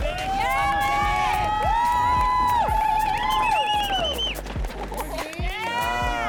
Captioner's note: cheering